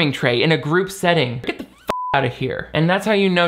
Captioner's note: beep